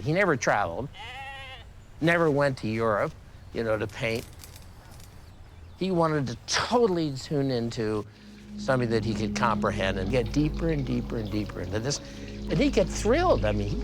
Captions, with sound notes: He never traveled, (goat bleating) never went to Europe, you know, to paint. He wanted to totally tune into something that he could comprehend and get deeper and deeper and deeper into this, and he'd get thrilled.